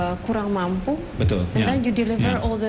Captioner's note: non-english speech